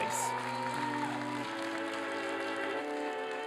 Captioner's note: applause